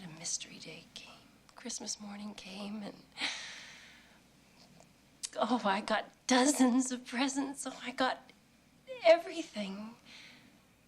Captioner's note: staggered inhale